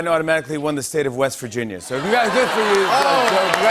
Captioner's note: cheers and applause